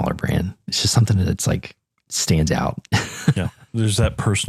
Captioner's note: laugh